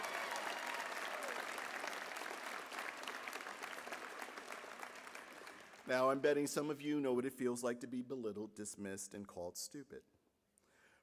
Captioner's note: applause